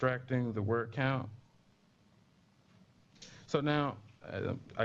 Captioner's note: pause